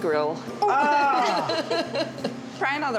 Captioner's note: laughs